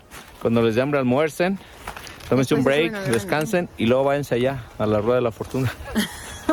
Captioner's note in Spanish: risas